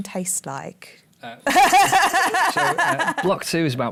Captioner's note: laughter